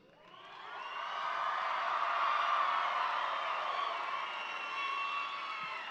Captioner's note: audience cheering and applauding